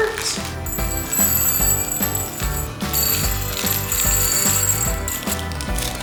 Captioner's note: candy clanking; upbeat festive music